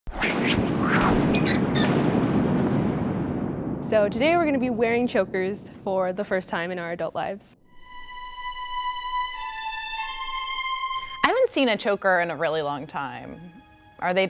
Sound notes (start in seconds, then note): 1.0 creaking; 7.6 slow, dramatic music